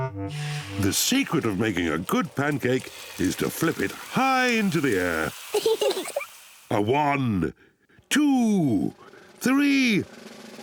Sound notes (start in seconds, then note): 5.5 both giggle